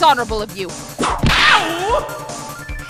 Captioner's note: whip crack!